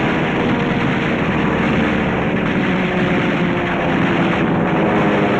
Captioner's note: gunfire and plane engines